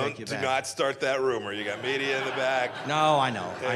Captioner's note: laughter